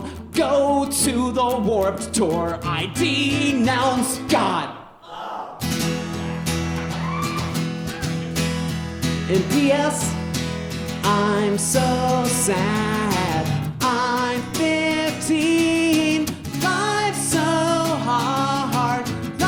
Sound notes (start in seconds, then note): 4.8 guitar strumming; 5.0 yells